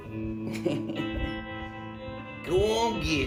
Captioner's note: light laughter